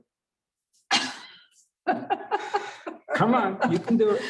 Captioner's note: laughs